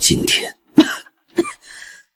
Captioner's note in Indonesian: batuk